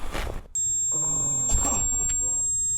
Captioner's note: groans; coughing